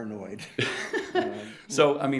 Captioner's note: chuckling